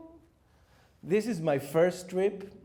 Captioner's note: bling